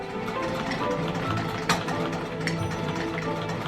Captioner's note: whirring